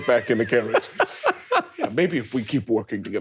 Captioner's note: laughing